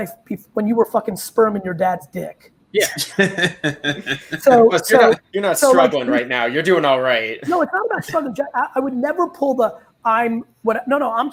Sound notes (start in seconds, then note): 2.8 all laugh